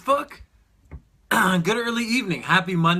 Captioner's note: clears throat